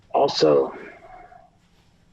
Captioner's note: none